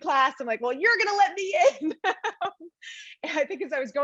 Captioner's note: laughs